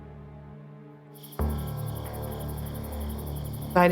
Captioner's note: crickets chirping